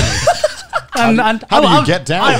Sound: all laughing

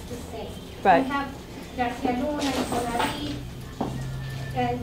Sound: spanish

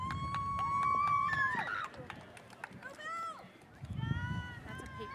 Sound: audience members cheer

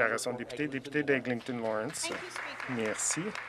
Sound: some Applause

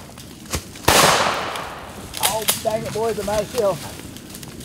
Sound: gunshot

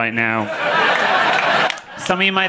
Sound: audience laughing

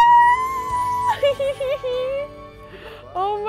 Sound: laughs

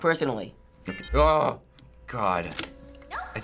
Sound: groans

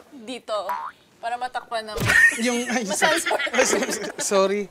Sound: laughter

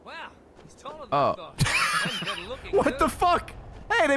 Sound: laughs

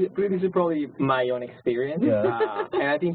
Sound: laugh

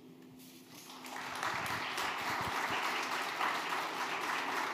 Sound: audience applauding

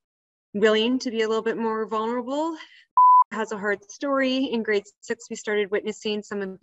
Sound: beep

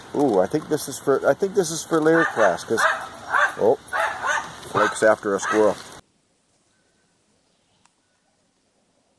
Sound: Geo-dog-Blake-barking

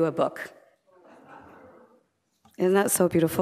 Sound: laughter

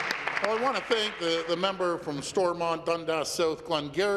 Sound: applause

